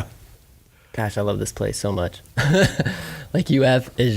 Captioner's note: laughing